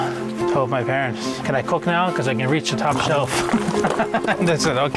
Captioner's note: laughs